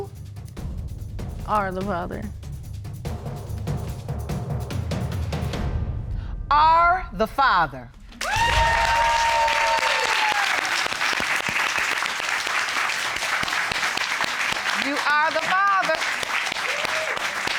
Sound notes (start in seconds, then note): 8.2 applause